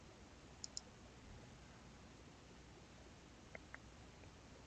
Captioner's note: mouse clicking